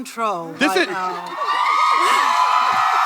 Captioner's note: audience cheers loudly